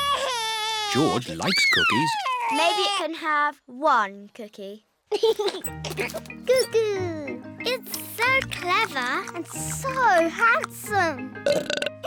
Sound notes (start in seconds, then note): 1.0 bawls; 5.1 giggles